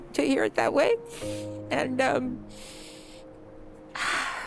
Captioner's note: sniffles; sighs